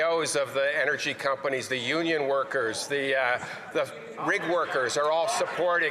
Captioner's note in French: voix de l'interprète